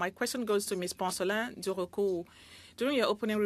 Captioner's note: speaking French